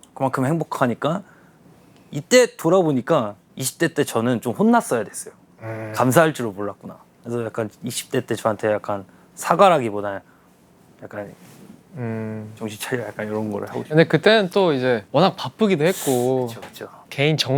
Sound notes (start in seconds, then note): 11.9 ugh